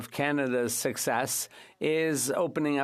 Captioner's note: speaking French